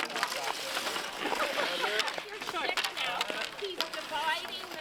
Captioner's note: players continue chatting